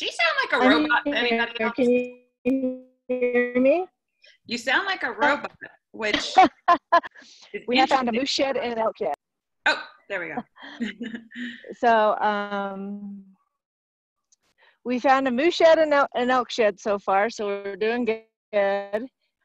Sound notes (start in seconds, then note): 6.0 laughing; 10.6 laughter